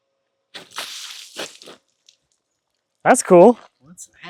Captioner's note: water splashing